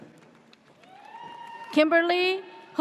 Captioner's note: audience cheers